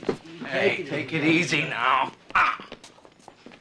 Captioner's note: grunts; grunts